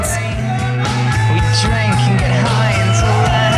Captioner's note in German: er schreit